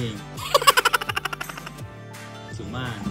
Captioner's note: chuckling